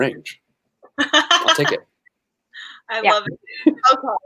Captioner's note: laughing